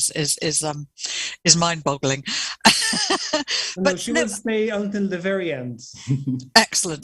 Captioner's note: laughter